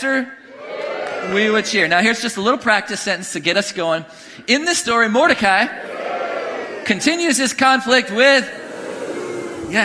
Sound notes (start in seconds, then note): 0.4 congregation cheering; 5.7 congregation cheering; 8.0 congregation booing